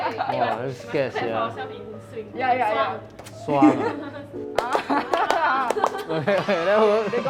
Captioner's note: swing Rhythm claps